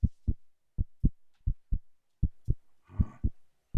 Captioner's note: heart beats faster